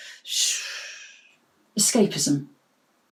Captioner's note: long exhale